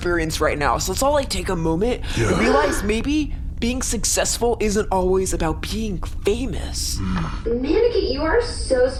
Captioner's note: crew gasps; Anorak rumbles in agreement